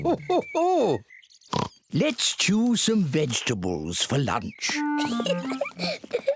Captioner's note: laughs; oinks; giggles